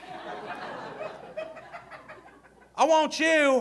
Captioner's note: audience laughing